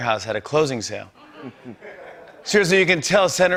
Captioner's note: laughter